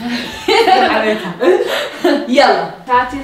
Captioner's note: laughs